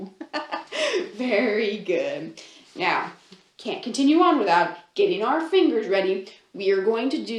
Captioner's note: laughs